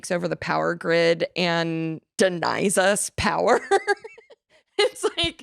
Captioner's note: laughs